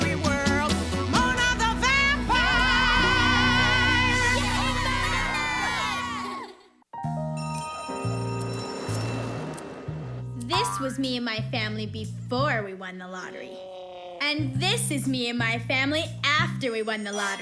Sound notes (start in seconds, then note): 3.6 shouting; 7.4 school bell rings